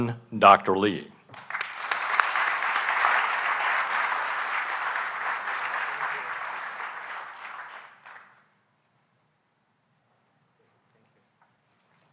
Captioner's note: applause